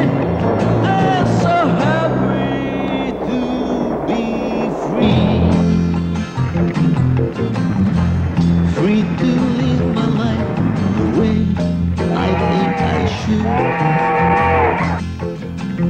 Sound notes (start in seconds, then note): 11.6 train whistle blows